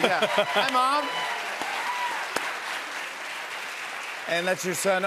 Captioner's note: cheers and applause